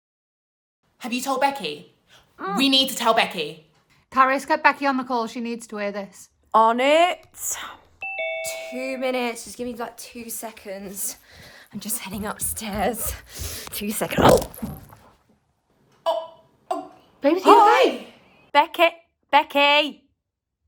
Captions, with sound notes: -Have you told Becky? We need to tell Becky! -Karis, get Becky on the call, she needs to hear this. -On it! (doorbell) -Two minutes, just give me like two seconds, I'm just heading upstairs, two second... (thud) -Babes are you alright? -Becky?! Becky, Becky?